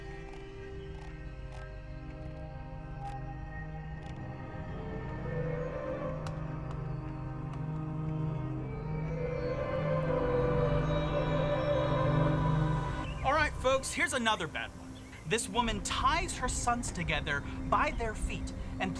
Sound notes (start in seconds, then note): 0.7 mouse scrolling; 5.1 foreboding music